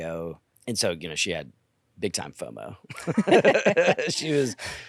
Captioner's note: laughs